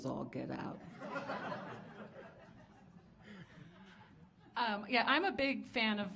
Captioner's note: audience laughing